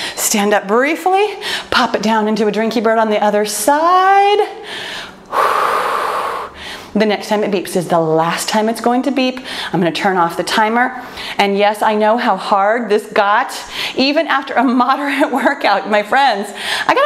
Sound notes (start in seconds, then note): 4.7 exhales loudly